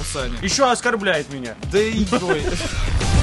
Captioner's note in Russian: смеются